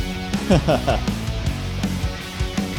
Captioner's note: laughs